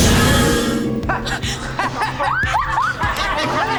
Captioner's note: laughing